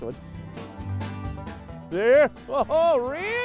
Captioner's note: yelling